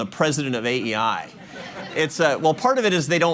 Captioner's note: laughter